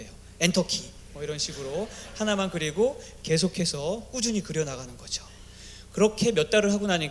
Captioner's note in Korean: 웃음